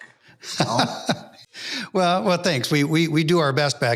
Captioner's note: chuckles